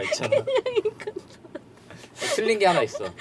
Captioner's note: laughter